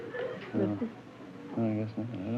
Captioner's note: whispers